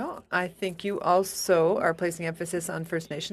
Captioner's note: speaking in French